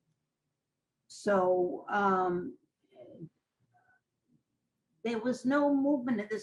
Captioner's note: pauses for 3 seconds